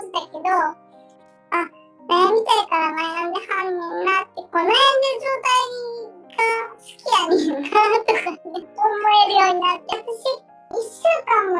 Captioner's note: laughs